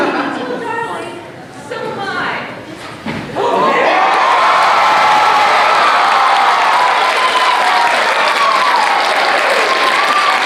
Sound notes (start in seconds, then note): 3.3 audience Cheers